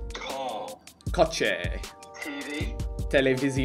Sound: foreign language

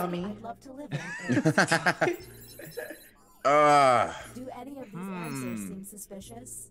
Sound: laugh

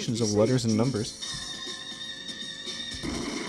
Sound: UFO sound?

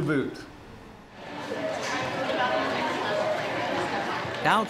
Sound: indistinct chatter

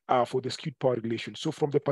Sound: audio distorts

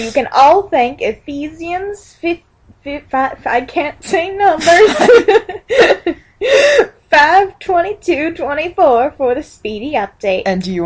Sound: laughs

